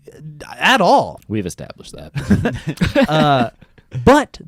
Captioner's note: laughs